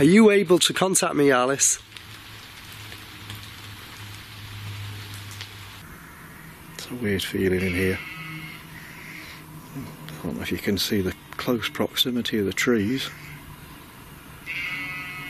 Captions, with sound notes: Are you able to contact me, Alice? - It's a weird feeling in here. (sheep bleating) I don't know if you can see the close proximity of the trees.